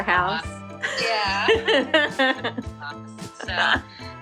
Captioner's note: laughter